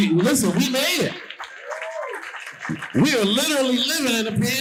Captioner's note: audience cheering and applauding